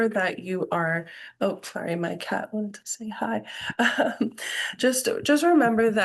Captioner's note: chuckles